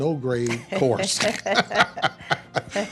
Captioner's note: both laughing